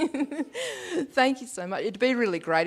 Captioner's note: laughs